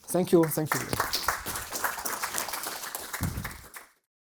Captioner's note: applause